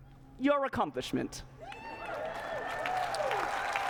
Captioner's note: cheering and applause